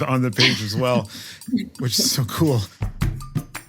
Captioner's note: laugh